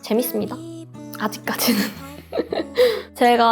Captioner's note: laugh